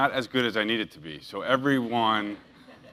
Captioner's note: laugh